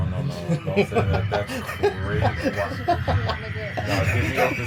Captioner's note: laughter